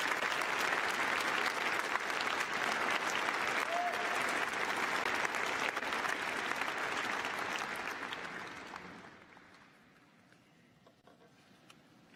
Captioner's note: applause